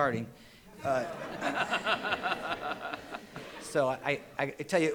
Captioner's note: all laughing